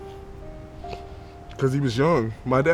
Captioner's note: sniffling